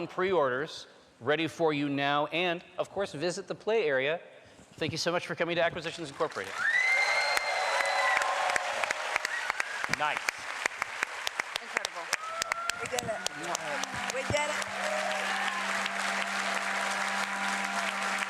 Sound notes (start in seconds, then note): 8.9 cheering; 13.4 horn blowing